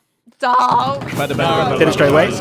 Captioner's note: verbal group drum roll